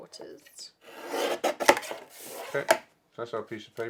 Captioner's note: slicing